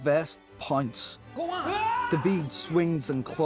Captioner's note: yells